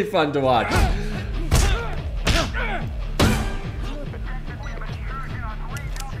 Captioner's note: guard and Happy grunting in pain